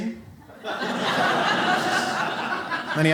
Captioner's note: audience laughs